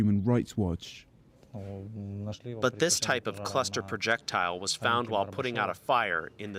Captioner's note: through translator